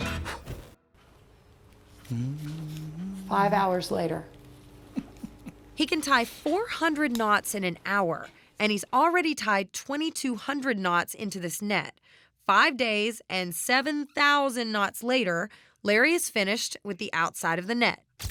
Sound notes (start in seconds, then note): 0.0 blows; 2.0 humming